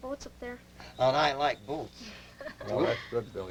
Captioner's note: laughter